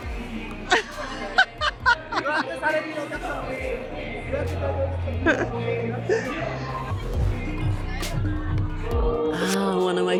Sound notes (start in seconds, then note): 0.4 laughing